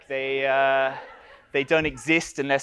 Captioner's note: audience laughs